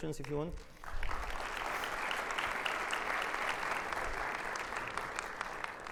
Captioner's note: audience applauding